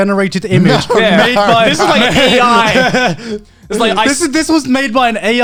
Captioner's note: both mumbling